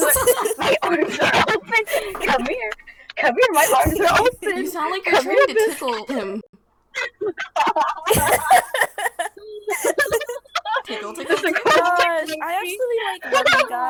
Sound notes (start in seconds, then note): 7.0 qt laughter